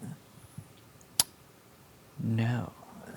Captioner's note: clicks tongue